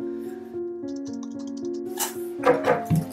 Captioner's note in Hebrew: דפיקה בדלת